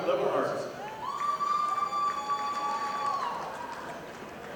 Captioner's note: audience applauding